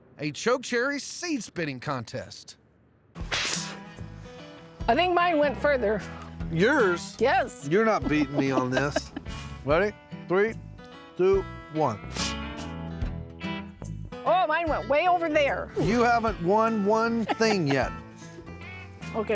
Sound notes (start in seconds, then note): 3.2 both spitting; 12.0 both spitting